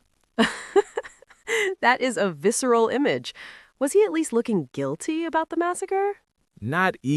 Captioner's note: laughing